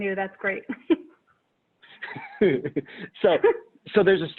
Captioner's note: laughter